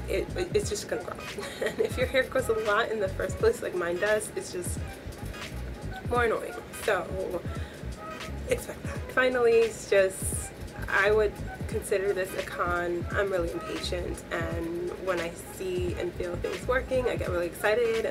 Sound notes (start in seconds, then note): 1.2 laughs